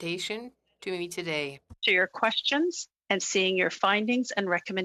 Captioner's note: speaking French